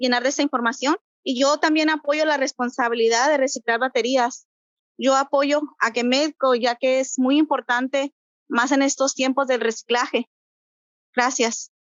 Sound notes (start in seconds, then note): 3.2 Spanish; 6.9 Spanish; 11.3 Spanish